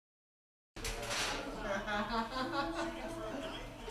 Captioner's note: laughing, shuffling